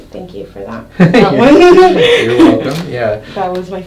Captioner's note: laughter